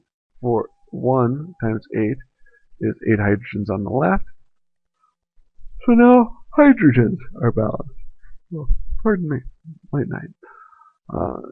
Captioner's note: yawns